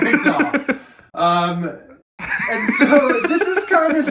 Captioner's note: laughing